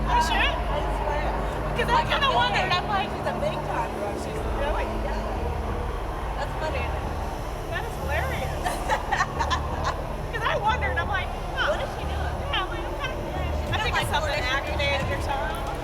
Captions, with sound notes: -Are you serious? -I swear. I kinda wondered. I'm like... Really? That's funny. -That's hilarious. -[laughs] 'Cause I wondered. I'm like, "Huh?" Kinda... [overlapping chatter]